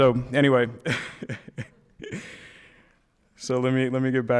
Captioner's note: laughing